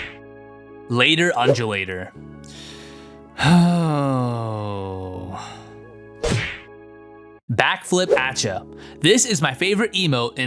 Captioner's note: long sigh